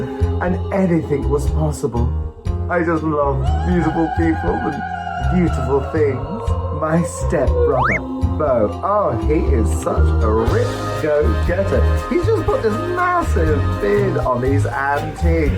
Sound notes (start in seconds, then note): 7.6 silly sound effects